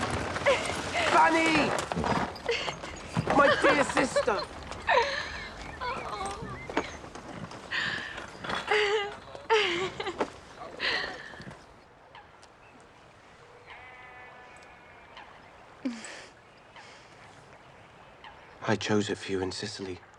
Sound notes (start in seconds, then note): 7.7 laughs; 15.8 laughs softly